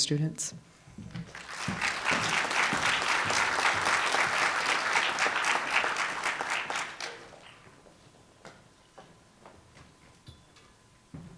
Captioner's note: applause